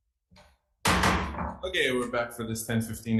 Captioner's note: gavel pounding